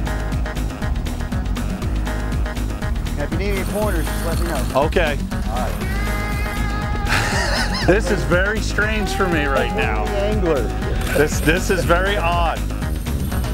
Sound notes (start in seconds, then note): 5.4 laughs